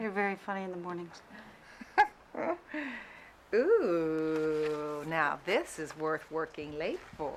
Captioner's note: laughs